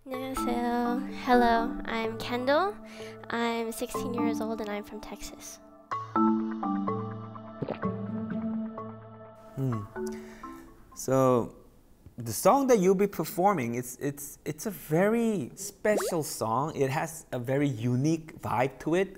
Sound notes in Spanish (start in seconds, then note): 7.6 Glup